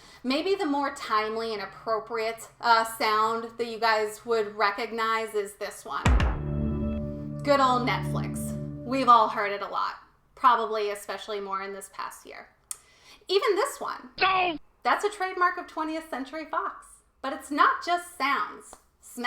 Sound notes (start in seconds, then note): 6.4 Netflix chime; 14.2 The Simpsons sound